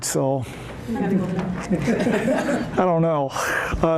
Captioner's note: laughter